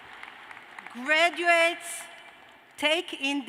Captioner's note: cheers and applause